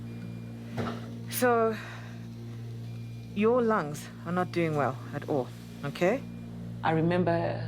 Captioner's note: sighs